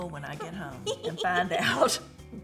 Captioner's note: giggling